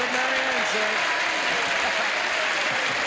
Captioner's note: cheers and applause